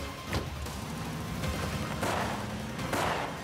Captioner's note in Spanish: ruido del vehículo al acelerar